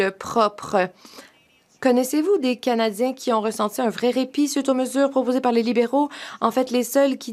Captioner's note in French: voix de l'interprète